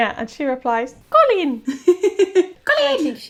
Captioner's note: laughing